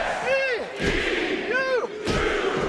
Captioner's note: crowd "e"; crowd "s"; crowd "u"